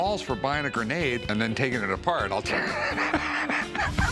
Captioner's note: laughs